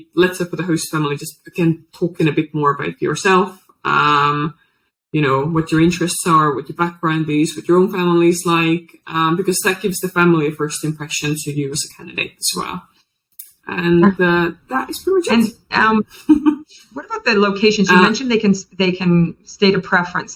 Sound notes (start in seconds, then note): 15.0 laughs